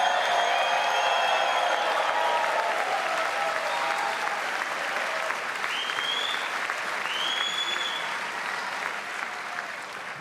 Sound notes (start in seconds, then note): 4.7 applause; 5.0 cheers